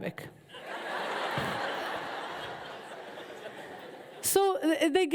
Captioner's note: audience laughs